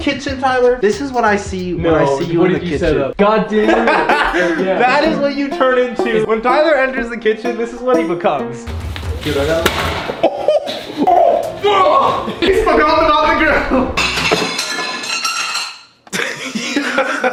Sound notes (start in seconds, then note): 5.7 laughs; 8.8 smacks floor; 10.0 chuckles; 14.0 glass breaks